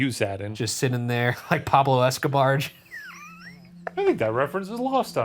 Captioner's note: laughs